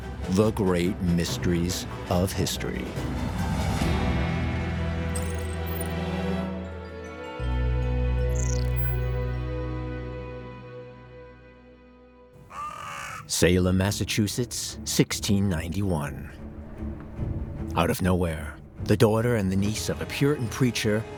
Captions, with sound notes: the great mysteries of history. (mysterious melody) (crows cawing) Salem, Massachusetts, 1691. Out of nowhere, the daughter and the niece of a Puritan preacher